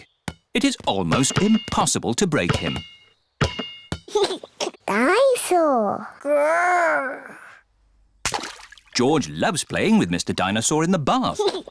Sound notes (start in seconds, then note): 4.1 giggles